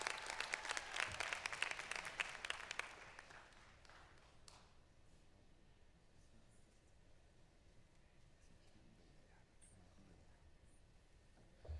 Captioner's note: applause